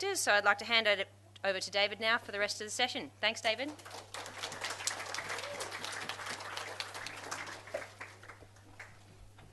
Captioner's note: audience applauds